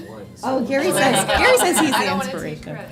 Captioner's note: laughter